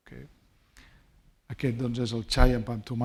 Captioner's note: speaking spanish